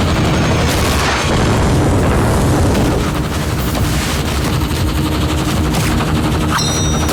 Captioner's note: helicopter whirring; explosions; ammunition firing; knives tinging